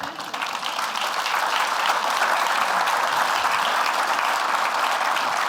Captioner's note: applause